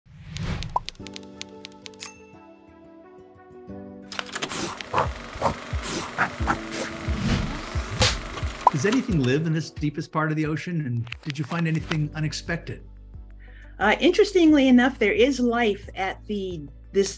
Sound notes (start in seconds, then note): 0.8 typewriter clacking; 4.2 movie reel rotating